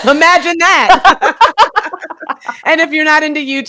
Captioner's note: both laughing